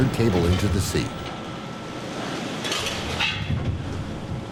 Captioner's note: machinery whirs